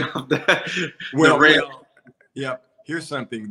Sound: laughter

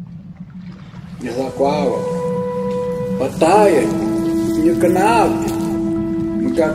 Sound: somber music; man speaking in language other than English

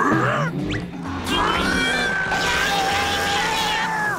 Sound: grunting

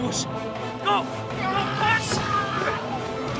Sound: screaming

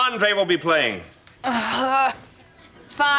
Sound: sighing

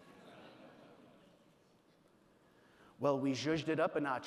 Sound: audience laughing

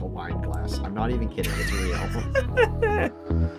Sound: laughing

